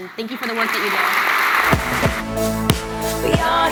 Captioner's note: applause